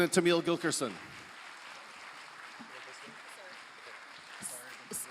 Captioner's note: applause